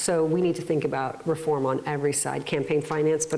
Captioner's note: none